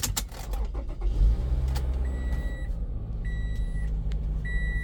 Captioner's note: beeping